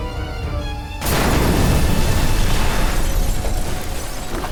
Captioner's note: dramatic music; house exploding